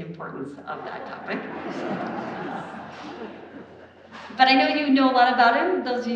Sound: audience laughs

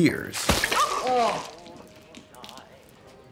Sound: splash

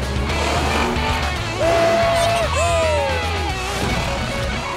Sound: cheering

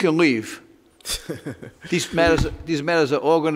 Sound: laughs

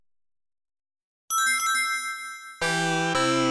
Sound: rings ringing; 16-bit video game music plays

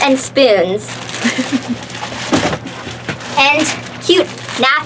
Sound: giggling

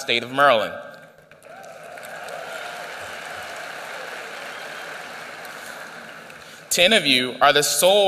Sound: applause

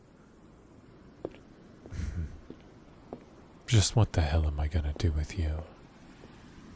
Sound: light stepping that fades; chuckles

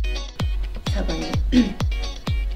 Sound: clears throat

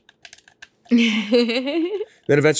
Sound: laughs

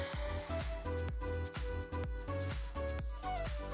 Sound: exhales

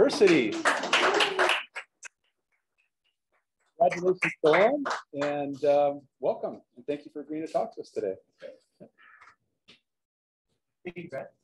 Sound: applause

